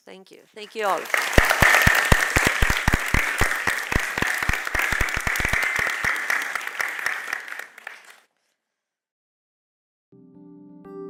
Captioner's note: applause